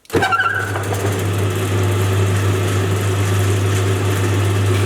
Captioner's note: machine whirring